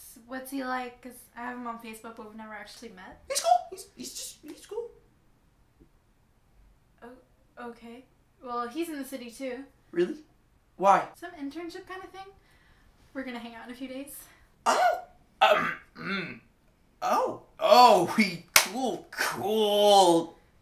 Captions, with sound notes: What's he like? 'Cause, I have him on Facebook but we've never actually met. (high pitched panic) He's cool! It's just...he's cool. O-okay... well, he's in the city too. Really? Why? Some internship kinda thing? We're gonna hang out in a few days. (more panic voice) Oh!! Um (clears throat, brings it down an octave) Oh, oh. Cool...(clap) cool!